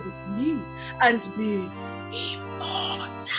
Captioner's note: whispering